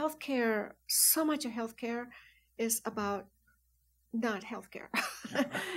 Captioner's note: laughs